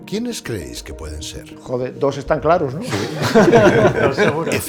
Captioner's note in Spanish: Risas